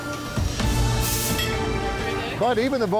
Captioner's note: steam hissing